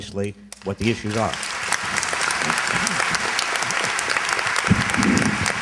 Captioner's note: applause